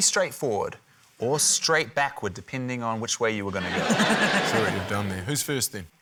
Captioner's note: laughter